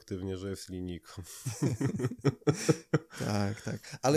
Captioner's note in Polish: śmiech